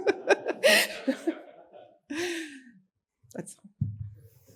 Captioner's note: all laughing